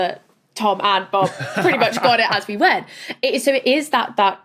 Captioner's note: laughs